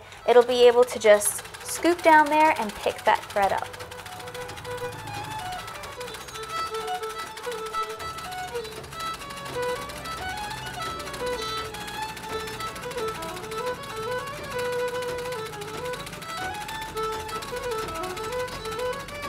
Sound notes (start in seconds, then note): 4.5 sewing machine whirring; 4.5 upbeat fiddle music